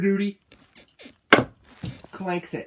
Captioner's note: bed squeaks